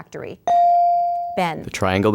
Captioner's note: ding